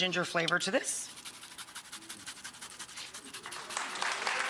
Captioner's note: ginger grating; audience clapping